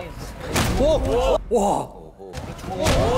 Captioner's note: exclaiming